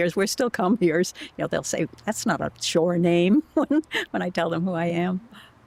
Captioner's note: laughter